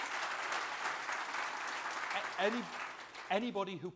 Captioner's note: applause